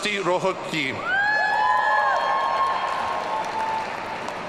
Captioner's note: audience cheering